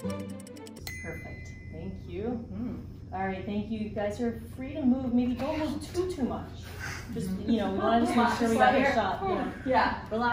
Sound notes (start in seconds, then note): 0.0 bell dings